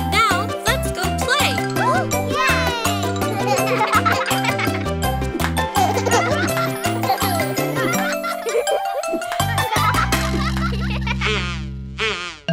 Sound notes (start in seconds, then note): 0.0 upbeat music; 1.8 children laughing; 5.9 upbeat music; 10.6 children laughing